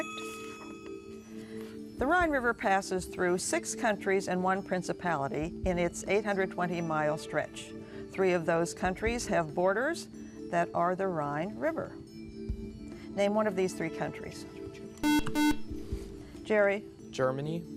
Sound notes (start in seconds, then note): 15.0 buzzer